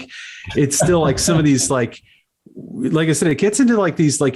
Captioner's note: host laughs; laughs